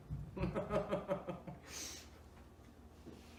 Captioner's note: laughs